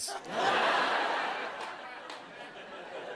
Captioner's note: laughter